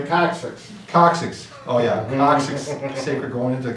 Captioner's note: giggling